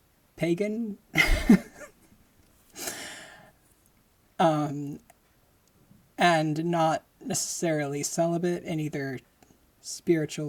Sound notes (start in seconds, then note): 1.2 laughing